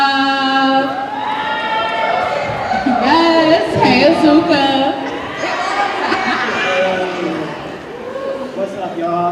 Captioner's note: cheers